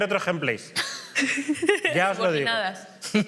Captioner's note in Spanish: todos ríen